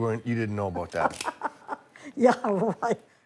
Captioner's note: laughs